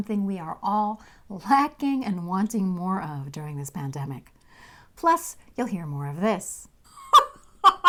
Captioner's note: laughing